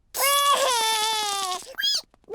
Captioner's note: cries